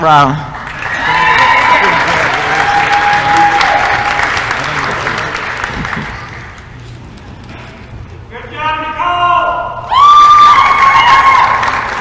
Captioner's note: applause & cheering